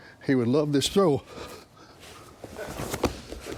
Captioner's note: sound of toe getting stepped on